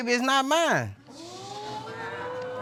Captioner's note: audience exclaiming